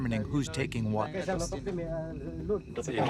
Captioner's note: speaking foreign language